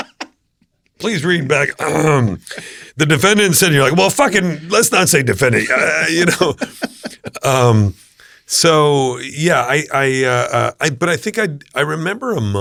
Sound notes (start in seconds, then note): 1.8 clearing throat